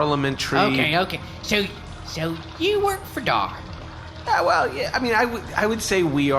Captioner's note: hesitantly